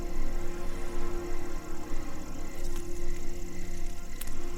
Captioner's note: mysterious music continues; crickets chirping